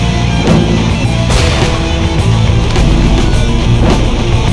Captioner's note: explosion booms